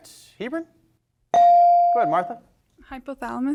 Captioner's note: bell rings